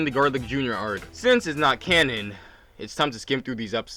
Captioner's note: sighs